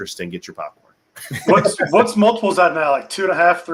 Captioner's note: laughing